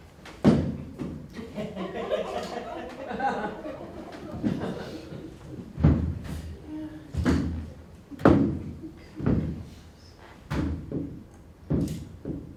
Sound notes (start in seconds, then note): 1.3 audience laughter; 5.1 heavy footsteps